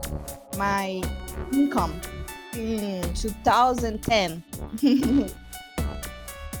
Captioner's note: giggles